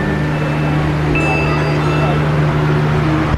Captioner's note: magical ding